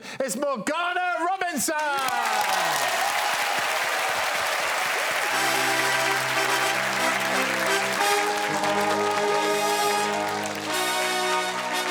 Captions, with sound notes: our new Taskmaster champion is Morgana Robinson. [applause] [orchestral music]